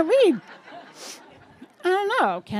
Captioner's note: audience laughing